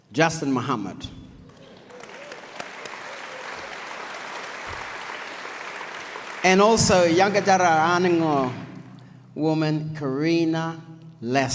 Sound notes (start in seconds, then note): 1.4 audience applauds